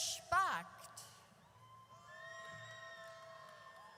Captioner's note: audience cheers